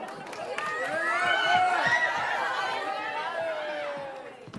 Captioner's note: audience cheering